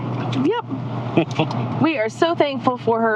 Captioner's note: chuckling